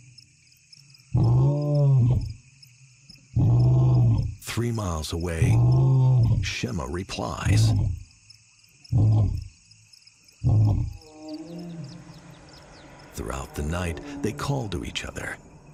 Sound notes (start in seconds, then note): 10.4 lions roaring